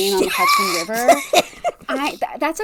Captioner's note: laughing